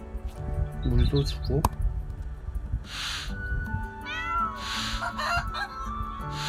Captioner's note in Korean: 콧방귀